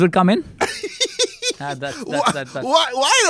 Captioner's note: laughs